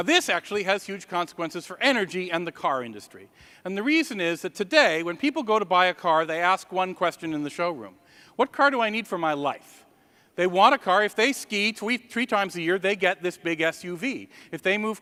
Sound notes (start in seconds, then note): none